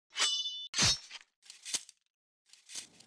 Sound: sword slashing

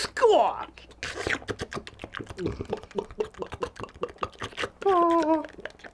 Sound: slurping and chugging sounds

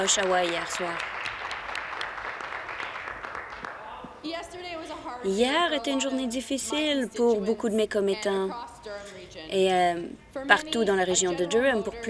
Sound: applause

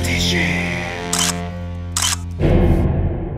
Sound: whispering; camera clicking; creepy music

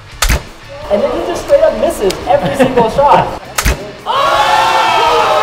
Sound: voiceover; cheering

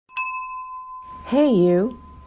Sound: chime

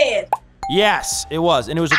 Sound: ding

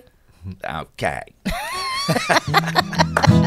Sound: laughs

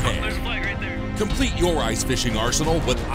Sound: voiceover

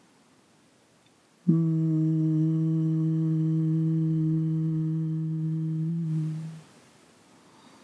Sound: humming sound

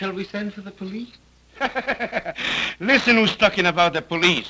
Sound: laughs

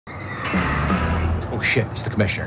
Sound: tires squealing

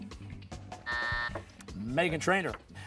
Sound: buzzer

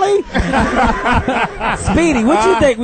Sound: all laugh

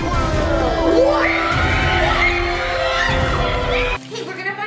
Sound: children screaming; dramatic music

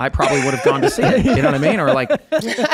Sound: everyone laughing

